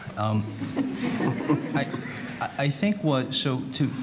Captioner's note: audience laughing